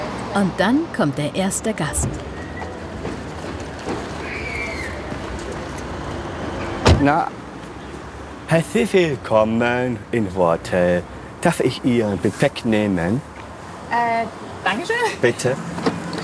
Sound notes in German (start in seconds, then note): none